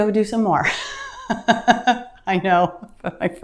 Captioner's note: laughing